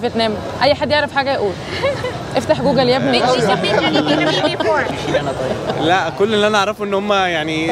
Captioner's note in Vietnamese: Tiếng cười